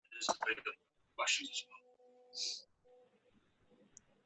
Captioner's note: speaks faintly